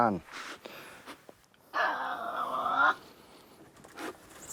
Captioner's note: growling